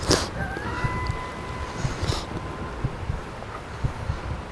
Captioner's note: distant howling